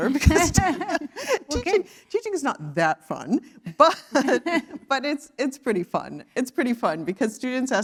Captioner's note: laugh